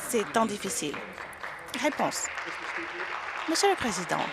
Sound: some Applause

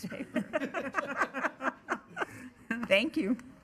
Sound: board members laughing

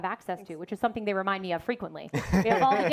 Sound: panelists laugh

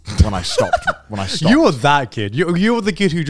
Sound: laughing

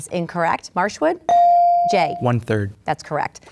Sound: ding

